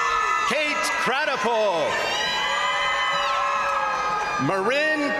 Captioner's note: crowd applauding; crowd cheering